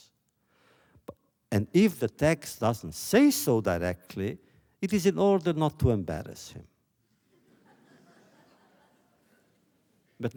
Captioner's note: laughter